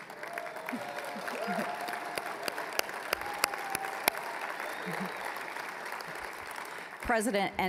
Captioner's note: applause, cheering